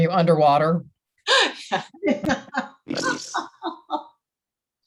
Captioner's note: laughing